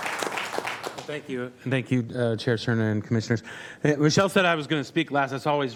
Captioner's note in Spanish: aplausos